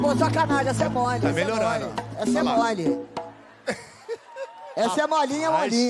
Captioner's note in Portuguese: riso